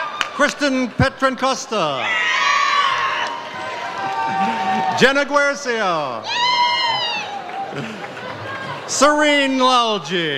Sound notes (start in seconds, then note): 0.0 audience cheers; 2.0 audience cheers; 6.3 audience cheers